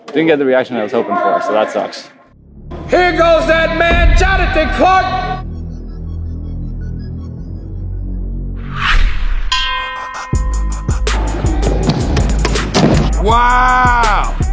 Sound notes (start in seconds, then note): 9.5 ding; 10.2 upbeat music